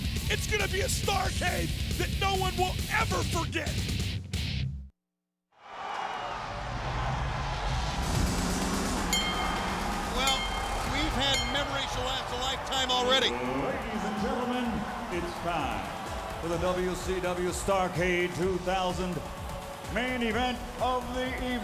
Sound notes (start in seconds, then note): 9.1 bell rings